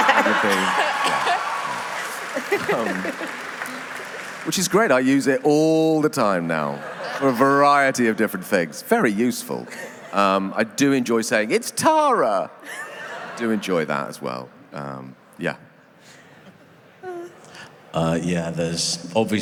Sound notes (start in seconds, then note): 0.0 applause; 6.4 applause